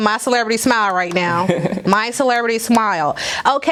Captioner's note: Alex laughing